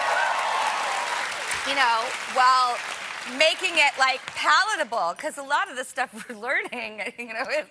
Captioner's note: applause